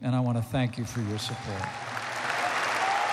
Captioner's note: applause